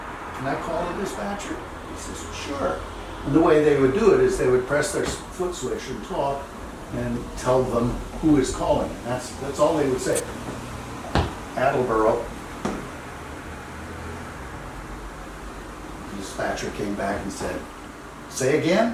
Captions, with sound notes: can i call the dispatcher?" He says: "Sure." And the way they would do it is they would press their foot switch and talk and tell them who is calling, and that's all they would say. [Sound of foot hitting floor]: "Attleboro." The dispatcher came back and said: "Say again."